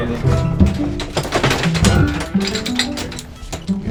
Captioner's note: chains clanging